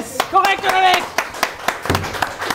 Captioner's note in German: Applaus